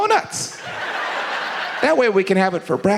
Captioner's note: audience laughs